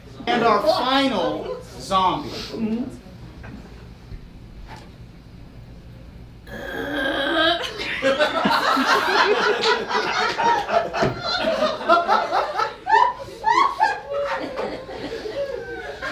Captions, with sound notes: And our final zombie. (zombie noise) (audience laughs)